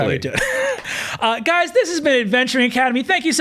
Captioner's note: chuckles